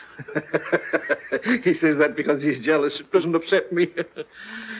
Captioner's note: laughing